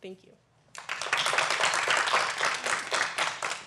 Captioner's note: applause